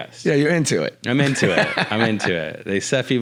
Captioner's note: laughs